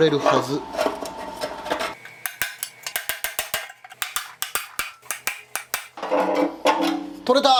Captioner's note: working sound